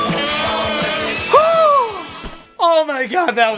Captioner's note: Critic/Doug sighing